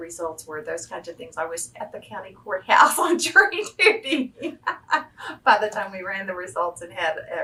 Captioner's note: laughs